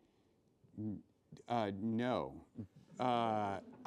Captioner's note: laughing